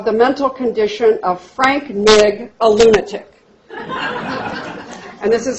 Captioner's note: laughter